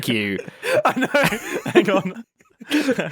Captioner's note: laughs